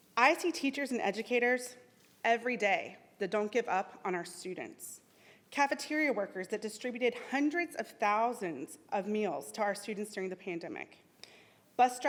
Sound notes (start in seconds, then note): none